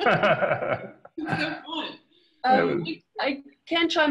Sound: laughter

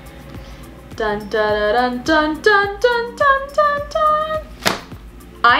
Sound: imitates dramatic music

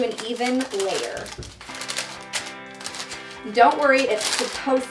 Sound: paper crinkling

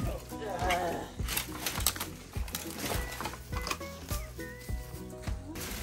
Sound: tears

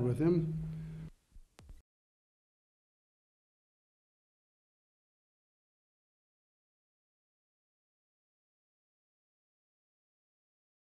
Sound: silent

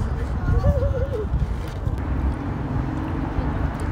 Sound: laughing

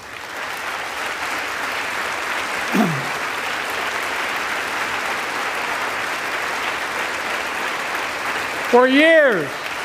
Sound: applause

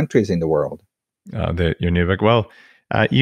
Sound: murmurs

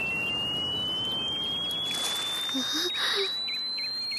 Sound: birds sounds

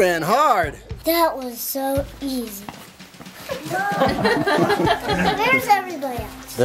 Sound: laughing

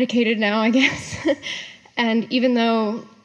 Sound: laughs

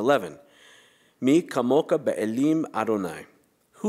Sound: non-english speech

